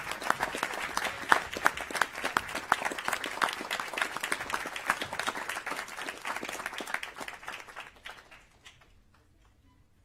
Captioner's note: applause